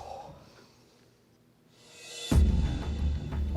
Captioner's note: exhales